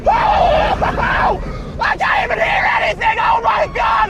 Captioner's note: screaming